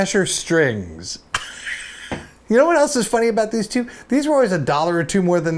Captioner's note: laughs